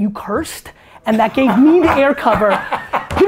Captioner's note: Tony laughs